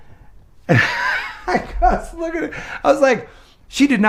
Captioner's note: laughs